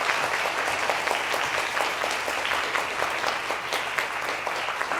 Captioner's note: applause